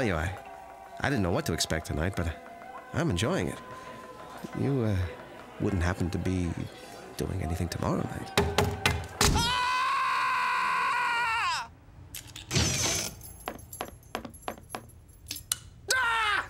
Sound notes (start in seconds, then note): 7.9 knife chopping; 9.3 man screaming; 15.8 yells